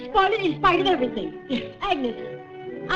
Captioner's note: gasps